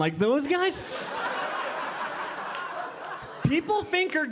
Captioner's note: audience laughing